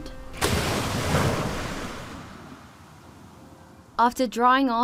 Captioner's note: splash